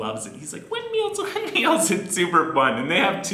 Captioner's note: laughs